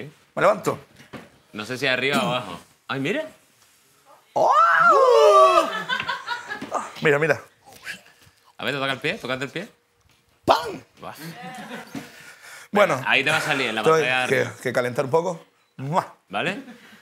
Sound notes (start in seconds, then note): 4.4 scream